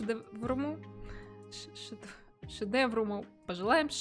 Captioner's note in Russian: говорит по-польски